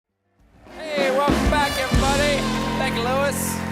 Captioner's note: applause